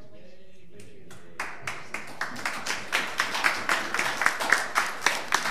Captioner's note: audience applauding